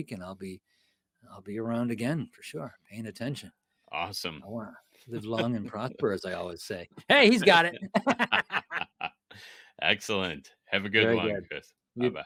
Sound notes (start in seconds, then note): 7.4 laughing